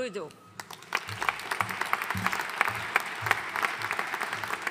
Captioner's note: audience applauding